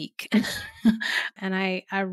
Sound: giggling

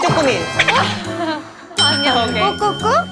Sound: haha

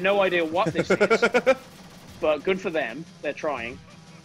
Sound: laugh

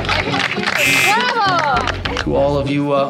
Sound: applause; buzzer

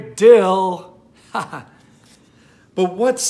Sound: man laughing

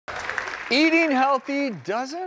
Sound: audience applauds

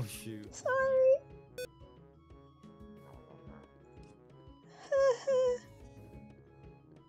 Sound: whimpers

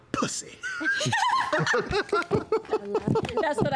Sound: group laughter

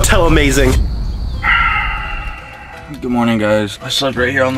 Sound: sighs

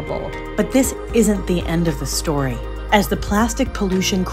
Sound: voiceover

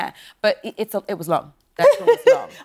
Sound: laughing

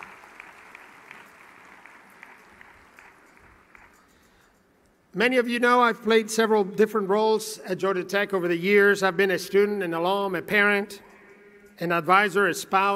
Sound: applause

